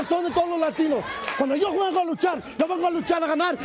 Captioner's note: speaking in foreign language